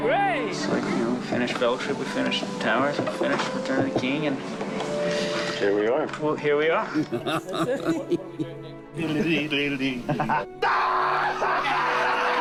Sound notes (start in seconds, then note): 6.9 chuckles; 9.0 humming; 10.0 laughs hysterically